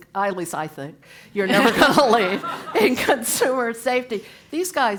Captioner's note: laugh